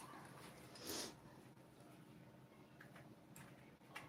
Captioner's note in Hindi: नाक से की जाने वाली आवाज़